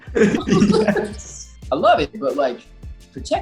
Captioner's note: laughing